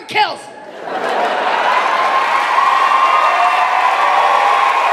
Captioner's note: audience cheering